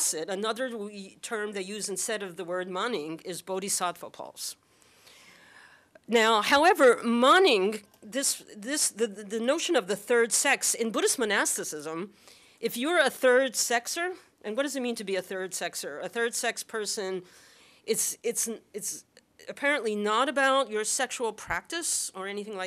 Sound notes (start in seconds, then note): 2.7 non-english; 7.1 non-english